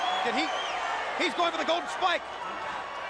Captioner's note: crowd cheering